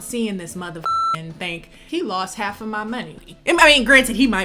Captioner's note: beep